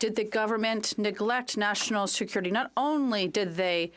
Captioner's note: speaking French